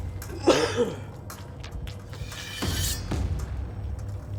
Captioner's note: coughing; suspenseful music continues